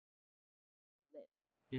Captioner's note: audio missing